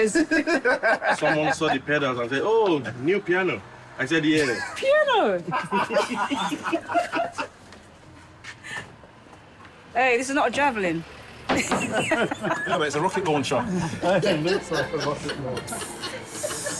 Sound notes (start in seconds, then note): 5.3 all laughing; 16.5 all chattering; 16.5 all laughing